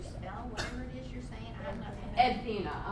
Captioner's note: voiceover